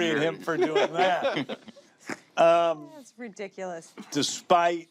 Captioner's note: laughter